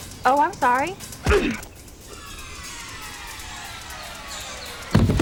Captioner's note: grunts